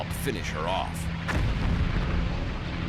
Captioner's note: explosions